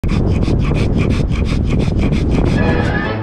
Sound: dog panting; wind whooshing; cheerful instrumental music

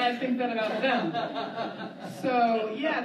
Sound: laughter

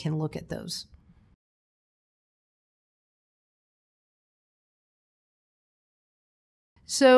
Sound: silence

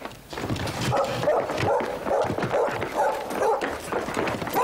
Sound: Humph barking

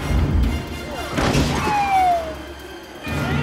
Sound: siren blaring

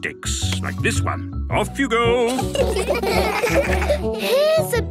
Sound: laughter

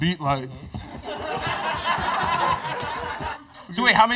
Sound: laughter

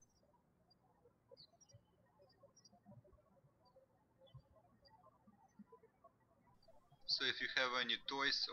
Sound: birds chirping

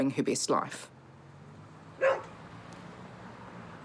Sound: dog barks

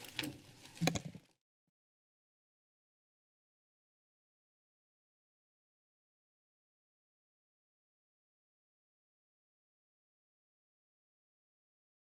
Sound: silence

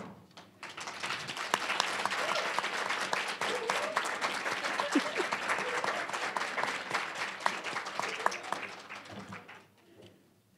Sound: applause, cheering

